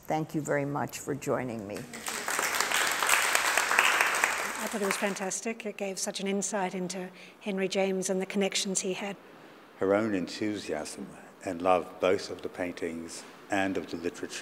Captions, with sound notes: ME. [ APPLAUSE ] >> IT GAVE SUCH AN INSIGHT INTO HENRY JAMES AND THE CONNECTIONS HE HAD. >> HER OWN ENTHUSIASM AND LOVE BOTH OF THE PAINTINGS AND OF THE